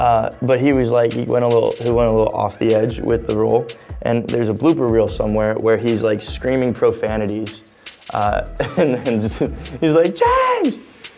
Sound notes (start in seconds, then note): 8.6 laughing